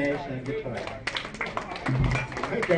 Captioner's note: audience clapping